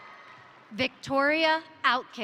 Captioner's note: crowd cheering; crowd applauding